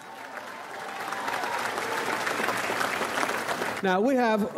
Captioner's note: audience applauds